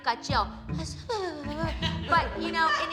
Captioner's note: laughter